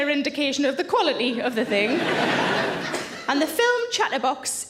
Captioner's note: audience laughs